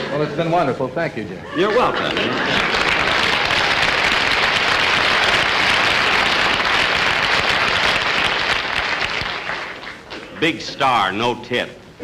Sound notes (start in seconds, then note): 1.6 audience Applauding